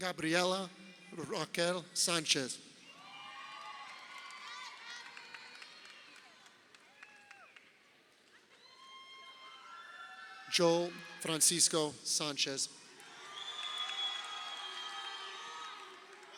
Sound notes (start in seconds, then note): 2.9 crowd cheering; 12.9 crowd cheering